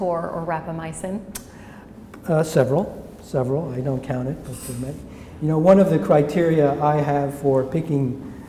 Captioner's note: smacks lips